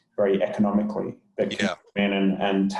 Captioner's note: murmurs